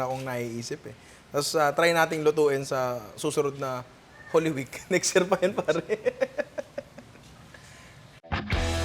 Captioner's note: laughs; outro music